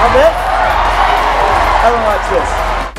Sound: audience cheers

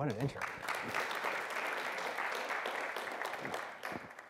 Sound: applause

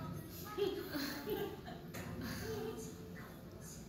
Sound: soft laughter and random moans

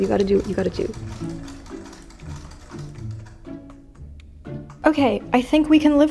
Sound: antique sewing machine working away

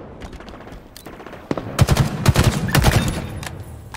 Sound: gunfire

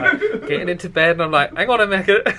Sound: laughs

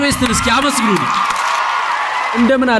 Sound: applause

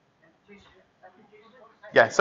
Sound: chattering

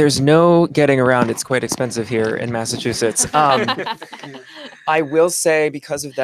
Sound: laughter

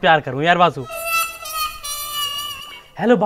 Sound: funny sounds playing

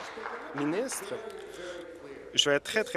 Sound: applause

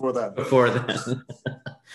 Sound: laughs

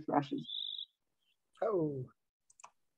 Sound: bird song

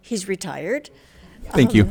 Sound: audience laughs

